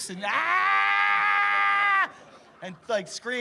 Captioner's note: screaming